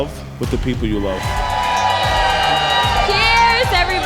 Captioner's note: people cheering